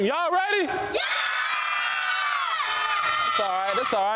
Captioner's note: children scream and shout